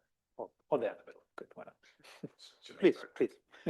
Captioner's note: chuckles